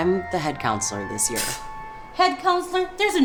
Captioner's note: scoffs